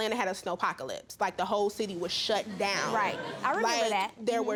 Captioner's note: audience chuckling